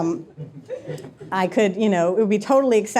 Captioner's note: audience members laughing